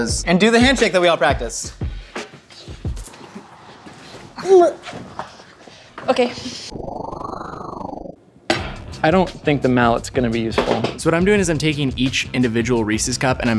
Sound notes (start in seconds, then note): 4.5 grunts; 6.9 whoosh